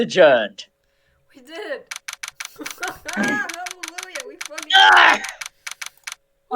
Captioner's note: laughs